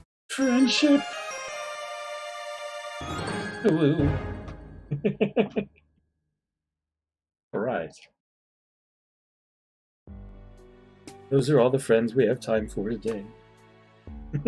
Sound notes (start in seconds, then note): 0.4 friendship fanfare; 4.8 chuckles; 14.3 chuckles